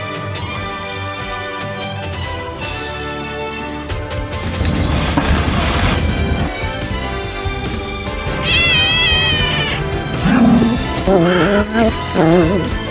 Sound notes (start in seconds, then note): 4.5 hisses; 8.3 meows; 8.4 growls